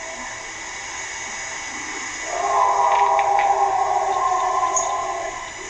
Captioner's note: animal howling continues